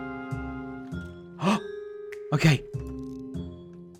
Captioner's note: gasps